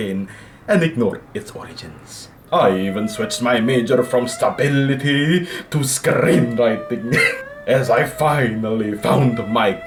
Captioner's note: laugh